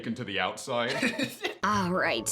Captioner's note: laughs